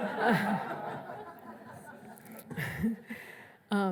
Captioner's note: laughs